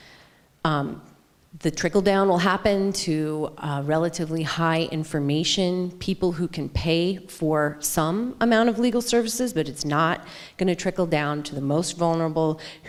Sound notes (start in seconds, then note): none